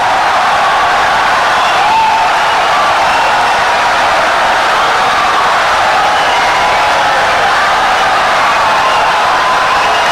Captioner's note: wild applause and cheering for 17 seconds